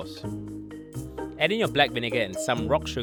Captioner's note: voiceover